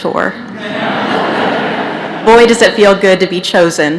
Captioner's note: laughter